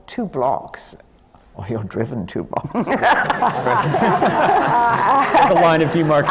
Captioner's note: laughter